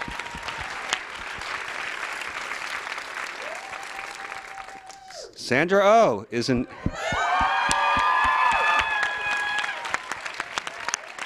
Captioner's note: applause